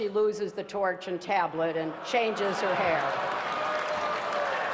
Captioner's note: laughter